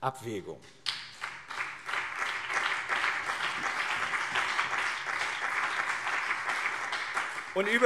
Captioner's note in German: Beifall BÜNDNIS 90/DIE GRÜNEN und CDU